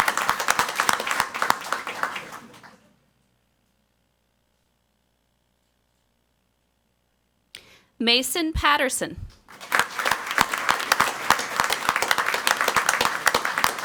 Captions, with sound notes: Mason Patterson. (crowd clapping)